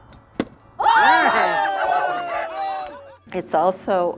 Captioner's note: cheers